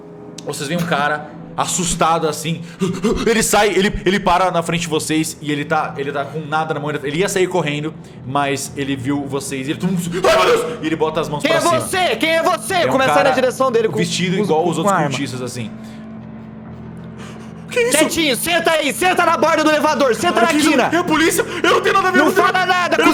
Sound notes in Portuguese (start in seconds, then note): 2.7 ???: Huf, Huf